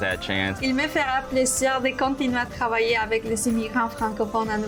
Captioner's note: speaks foreign language